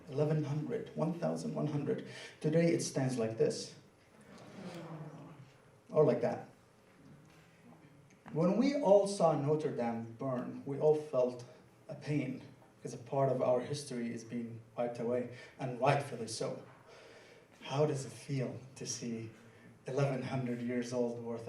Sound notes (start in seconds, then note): 4.2 audience groaning and sighing